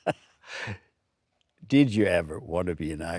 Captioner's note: Stellan laughs